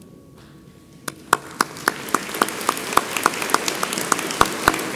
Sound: audience applauds

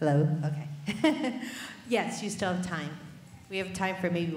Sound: laughs

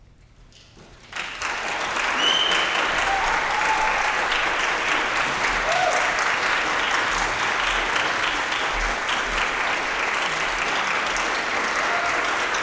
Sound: applause, cheering

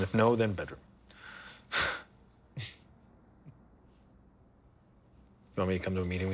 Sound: both chuckle

